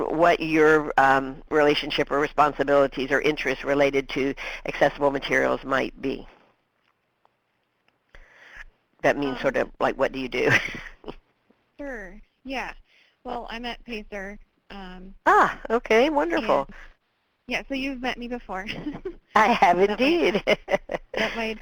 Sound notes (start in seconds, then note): 12.1 voiceover; 15.6 voiceover